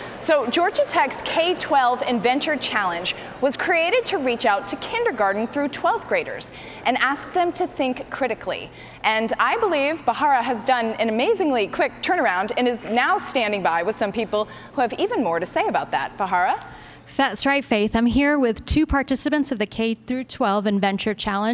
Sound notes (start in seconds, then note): none